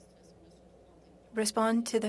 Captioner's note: speaking French